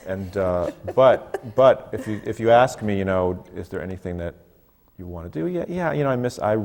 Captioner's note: laughs